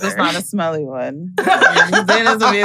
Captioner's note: giggles